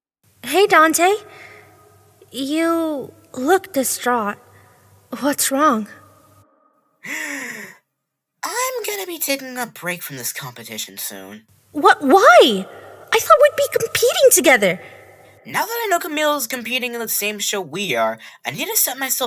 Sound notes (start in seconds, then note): 7.0 Dante takes a deep breath